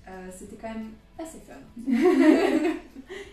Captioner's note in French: rires